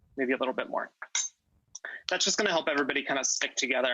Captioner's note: spoon clinks